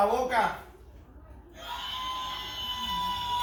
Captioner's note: rooster crowing